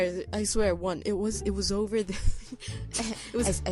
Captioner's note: laughing